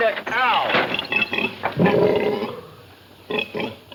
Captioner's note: pig snorts